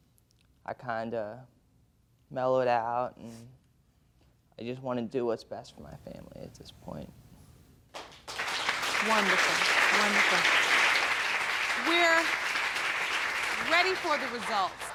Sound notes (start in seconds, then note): 7.9 audience applauding